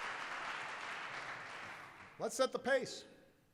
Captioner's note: applause